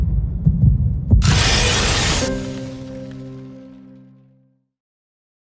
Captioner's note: heartbeat; blizzard howling